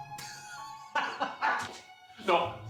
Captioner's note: laughing